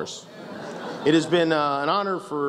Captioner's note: laughs